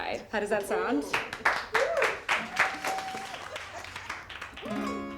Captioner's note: crowd cheering; crowd clapping